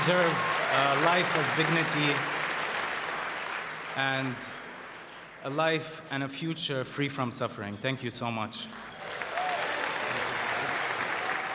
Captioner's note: cheering and applause